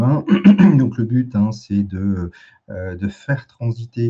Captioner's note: raclement de gorge